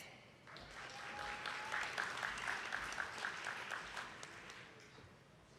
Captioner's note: attendees clapping